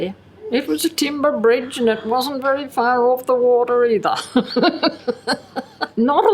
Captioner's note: chuckles